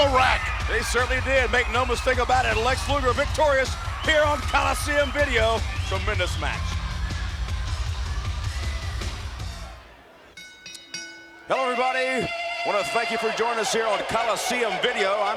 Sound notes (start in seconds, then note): 6.7 upbeat music; 10.3 ring bell clanging